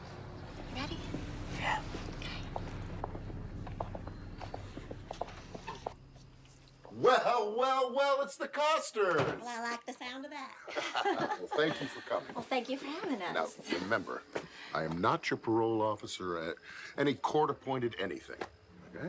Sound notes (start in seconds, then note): 10.6 Tom and Kimberly laughing